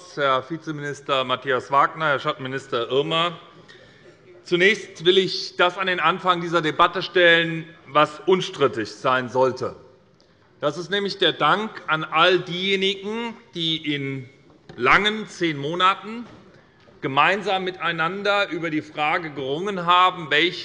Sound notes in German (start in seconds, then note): none